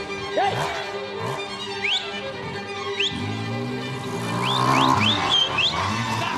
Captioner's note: whistling